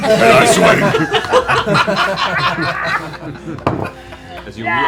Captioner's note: laughter